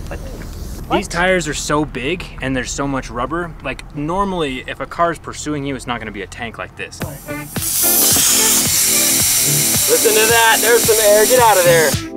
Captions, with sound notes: These tires are so big, and there's so much rubber. Normally if a car's pursuing you, it's not gonna be a tank like this. (upbeat music) (air releasing) - Listen to that, there's some air, get out of there.